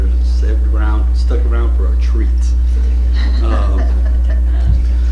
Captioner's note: laughter